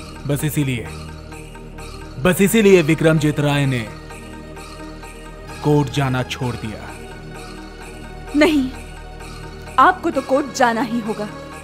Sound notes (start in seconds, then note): none